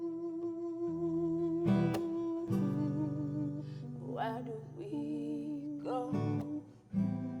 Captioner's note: none